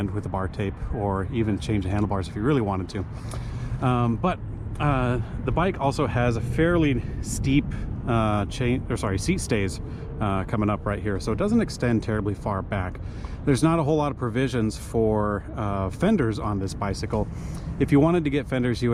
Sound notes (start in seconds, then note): none